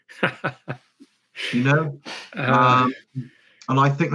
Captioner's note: laughing